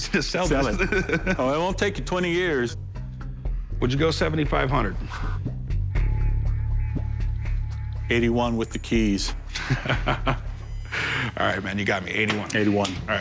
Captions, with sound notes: -[laughs] -Oh, it won't take you 20 years. Would you go $7,500? $8,100 with the keys. [laughs, inhales] Alright, man, you got me, $8,100. -$8,100. -Alright, deal.